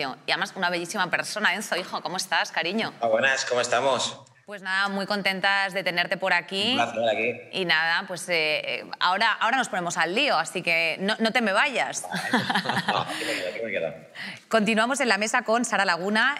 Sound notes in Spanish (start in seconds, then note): 12.0 algunos ríen